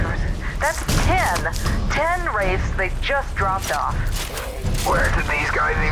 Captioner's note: over comms